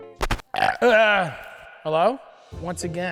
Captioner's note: Matty belches